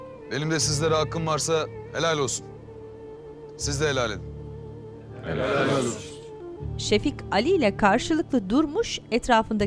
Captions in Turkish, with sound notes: Benim de sizlere hakkım varsa helal olsun, siz de helal edin. (Hep bir ağızdan) Helal olsun.